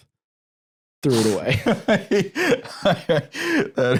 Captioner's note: laughs